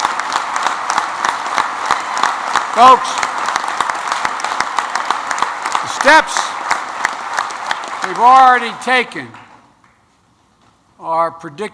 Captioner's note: applause